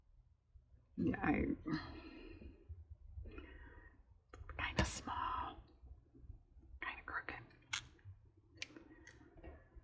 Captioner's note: whispers